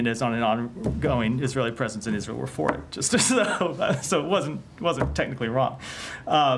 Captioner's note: laughter